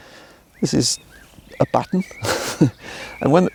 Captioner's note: laughing